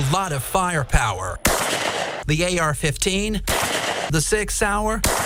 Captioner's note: gunshots